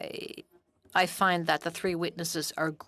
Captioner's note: speaking French